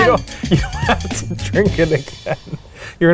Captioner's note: laughs